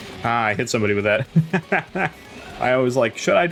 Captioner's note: laughs